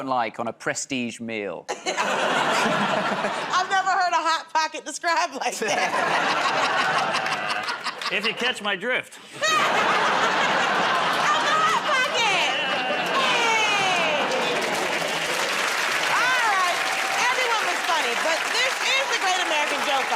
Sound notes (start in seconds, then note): 5.5 laughter; 14.9 applause